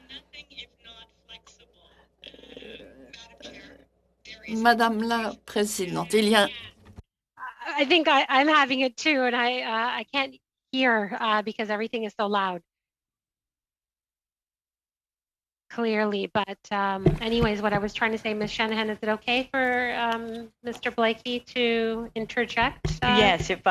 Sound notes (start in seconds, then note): 0.0 speaking French; 7.1 speaking French